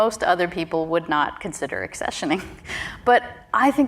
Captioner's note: chuckles